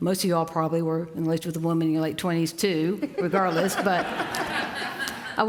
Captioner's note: laughter